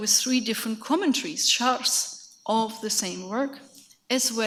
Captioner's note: speaks in a foreign language